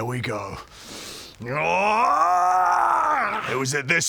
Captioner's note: grrgrgrarahrrhgggrhrgghahhgghhgh